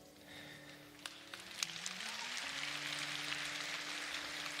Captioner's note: applause